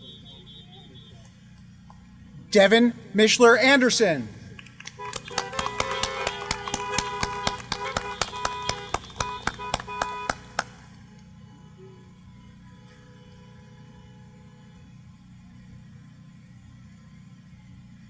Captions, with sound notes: Devon Mischler Anderson. [APPLAUSE]